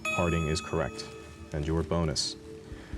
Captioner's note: buzzer